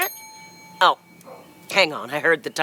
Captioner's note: bell chimes